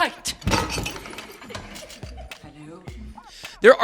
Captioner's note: children laugh